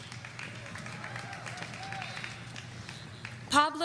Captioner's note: audience cheering